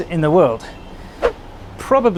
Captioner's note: swoosh